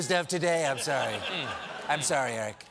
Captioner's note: laughter